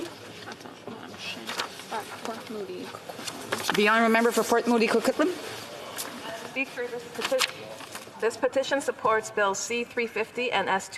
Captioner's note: speaking French